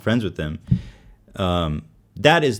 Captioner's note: inhaling